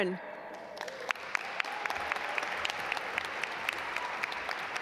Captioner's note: audience applaud